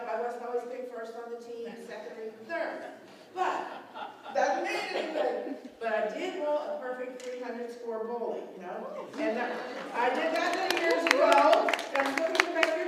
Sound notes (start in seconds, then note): 3.3 laughter; 9.1 applause